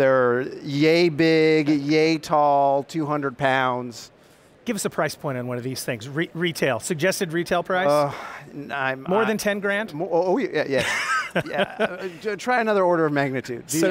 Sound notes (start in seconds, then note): 10.6 laughing